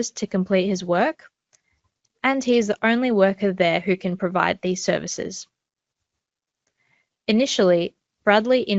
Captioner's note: click